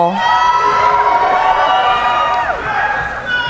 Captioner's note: cheering